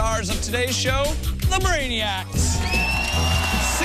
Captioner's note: cheers and applause